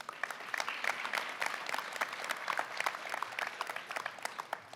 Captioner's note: applause